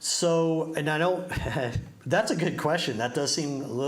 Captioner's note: chuckles